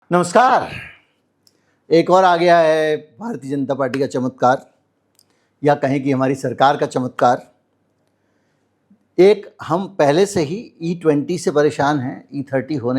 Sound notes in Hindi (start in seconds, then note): 0.7 गला साफ़ करने की आवाज़